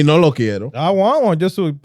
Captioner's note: speaking In Foreign Language